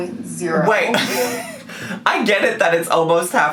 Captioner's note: laughs